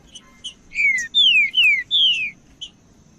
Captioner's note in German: trinca ferro cantando